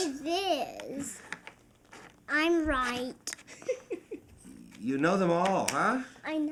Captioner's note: laughing